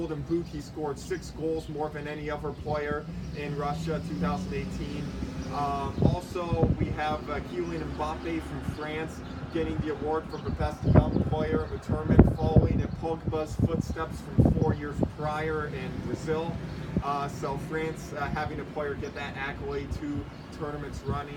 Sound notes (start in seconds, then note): 4.2 birds singing; 4.2 vehicle making noise